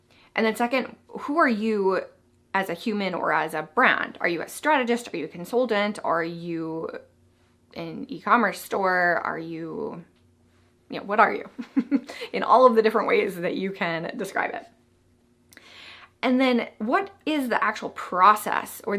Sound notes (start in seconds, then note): 11.5 chuckles